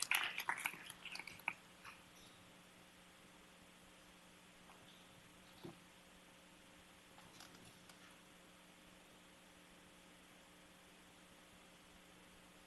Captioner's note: applause